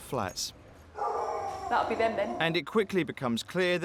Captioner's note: dog barking